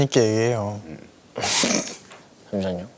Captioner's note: cough